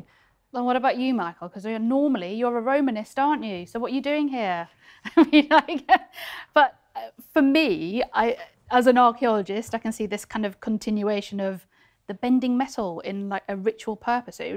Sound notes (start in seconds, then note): 5.8 laughs